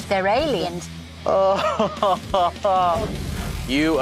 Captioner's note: laughs